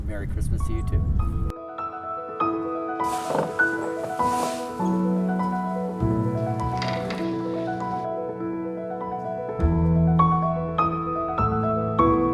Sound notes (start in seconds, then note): 3.0 snow rustles; 6.9 bird feeder creaks